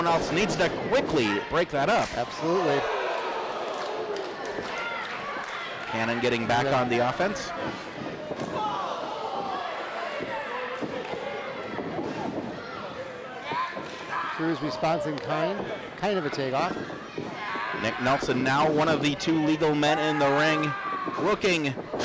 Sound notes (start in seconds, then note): 3.2 crowd calling